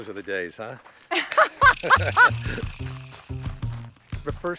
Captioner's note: laughing